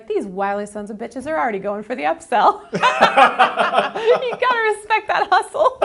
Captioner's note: she laughs